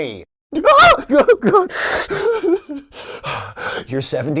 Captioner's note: shocked, horrified gasp